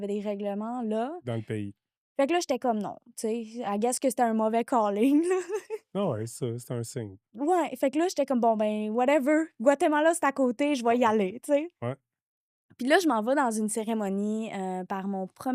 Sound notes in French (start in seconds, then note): 5.2 rires